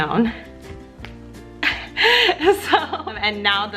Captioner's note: laughs